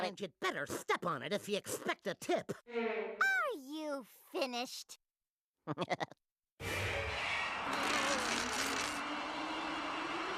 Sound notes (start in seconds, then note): 5.7 laughing nervously